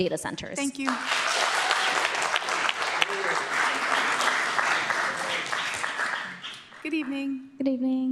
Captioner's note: applause